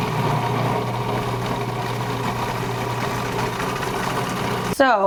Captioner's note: processor whirring